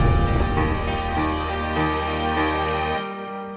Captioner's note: inspirational music continues; wind blowing